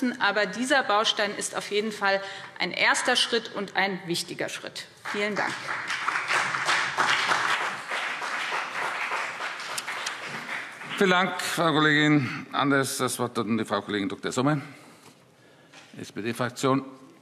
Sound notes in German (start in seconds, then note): 5.0 Beifall BÜNDNIS 90/DIE GRÜNEN und CDU